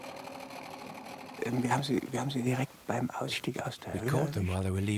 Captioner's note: German spoken audio